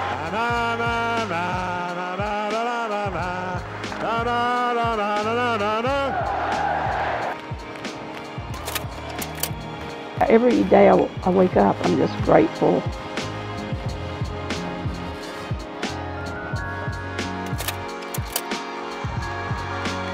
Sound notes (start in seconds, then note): 5.2 crowd yells; 9.1 slide clicks; 17.4 slide clicks; 19.9 crowd roars